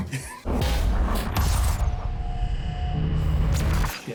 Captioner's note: digital buzzing